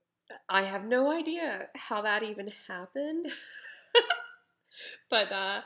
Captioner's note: laughs